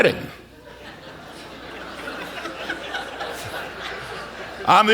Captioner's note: audience laughter